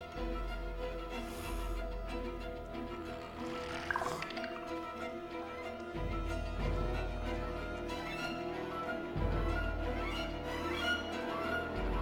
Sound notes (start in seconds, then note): 0.9 hisses; 3.5 trilling